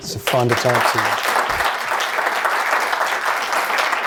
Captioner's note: applause